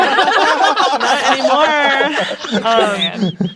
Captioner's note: players laughing